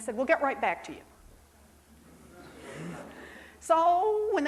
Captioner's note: crowd chuckles